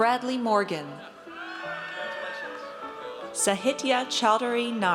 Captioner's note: audience cheers